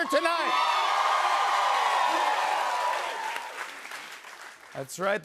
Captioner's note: cheers and applause